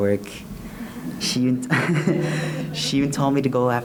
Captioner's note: laughs